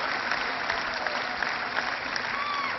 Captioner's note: cheering